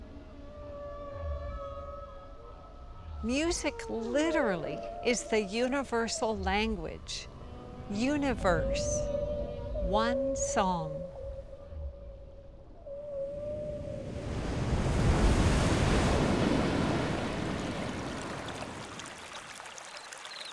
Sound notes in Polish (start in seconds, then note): 12.4 odgłosy wieloryba; 13.9 dźwięk fal; 17.9 dźwięk płynącej wody